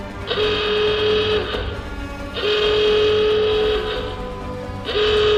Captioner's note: army centre alarm blaring